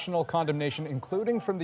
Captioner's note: crowd noise